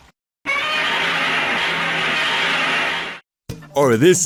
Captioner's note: Godzilla Roar